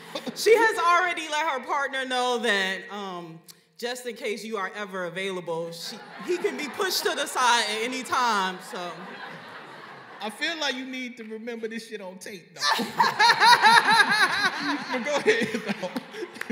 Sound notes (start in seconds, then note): 8.8 laughter; 12.6 laughing